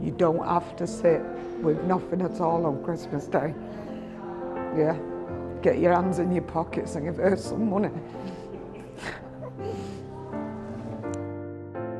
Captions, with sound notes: You don't have to sit with nothing at all on Christmas Day. Get your hands in your pockets and give her some money. (quietly laughs)